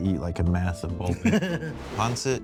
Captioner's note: chuckling